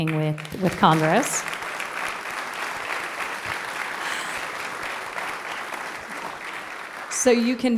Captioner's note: applause